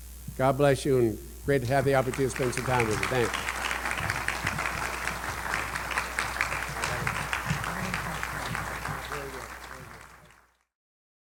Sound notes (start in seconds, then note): 4.8 applause